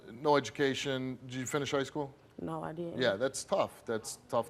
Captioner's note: none